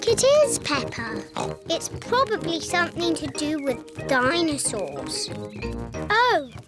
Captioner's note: bleats; oinks